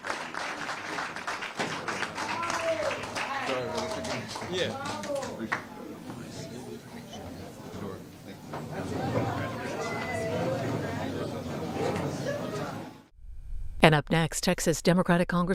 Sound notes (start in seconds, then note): 4.2 applause